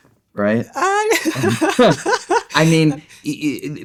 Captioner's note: laughing